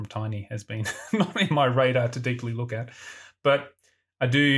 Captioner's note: laughs